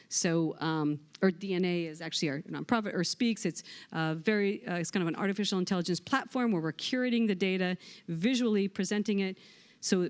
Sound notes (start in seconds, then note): none